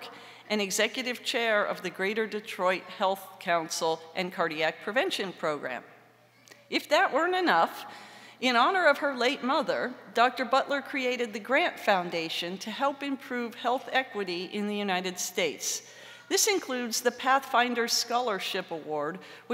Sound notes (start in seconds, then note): none